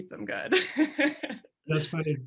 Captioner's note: laughing